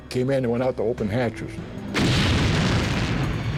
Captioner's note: explosion